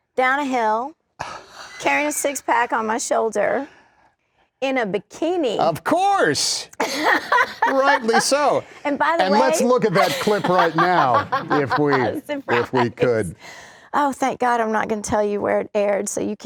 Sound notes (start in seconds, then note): 6.8 laughter; 9.3 laughs